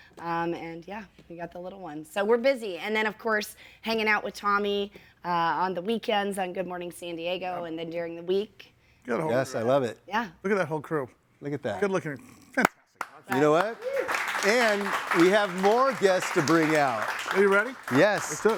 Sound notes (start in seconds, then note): 13.0 clapping